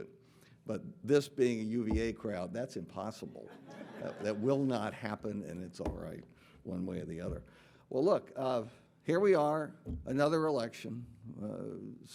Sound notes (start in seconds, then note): 3.5 audience laughing